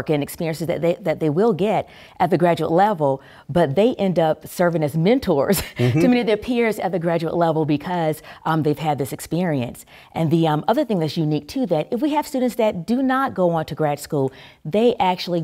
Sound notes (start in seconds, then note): 5.7 laugh